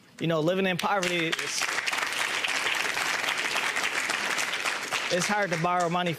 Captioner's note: audience applauds